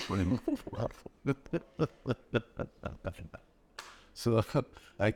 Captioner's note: laughing